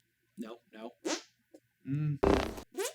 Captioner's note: hand fart x2; warthog fart